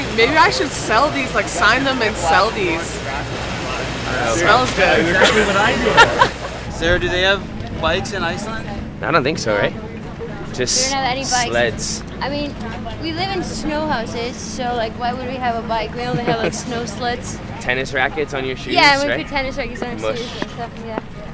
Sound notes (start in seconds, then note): 5.0 laughing